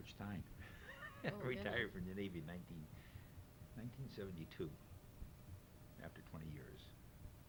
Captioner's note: laughs